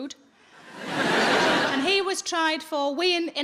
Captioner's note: audience laughing